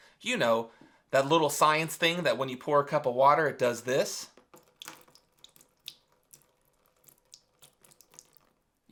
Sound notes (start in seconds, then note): 4.6 water splashing